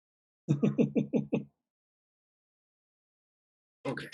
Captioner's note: chuckles